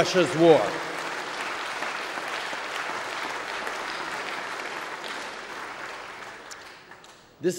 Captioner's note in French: Applaudissements